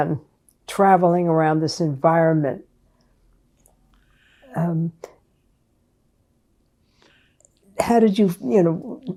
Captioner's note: pauses 6 seconds